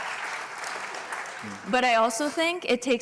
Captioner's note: applause